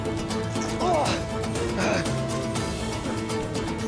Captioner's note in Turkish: İnilti sesi